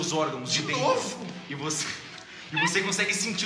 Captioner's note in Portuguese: Risada